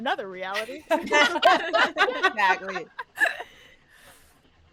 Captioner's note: all laughing